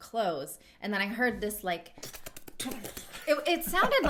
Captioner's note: imitating squirrel noise